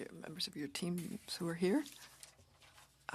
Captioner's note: speaking French